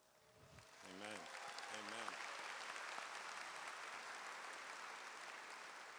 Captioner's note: audience applauds